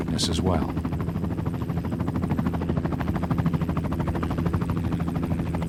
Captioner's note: helicopter blades whirring